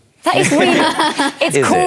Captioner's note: laughter